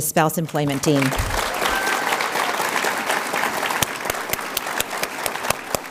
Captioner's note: audience applauds